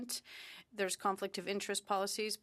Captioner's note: speaking in French